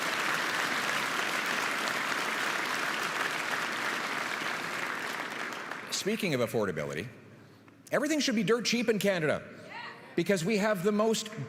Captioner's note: applause